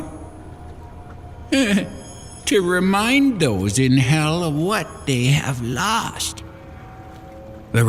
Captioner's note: chuckle